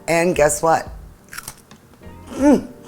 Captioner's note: chewing